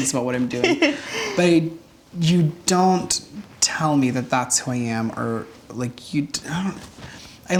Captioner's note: stammers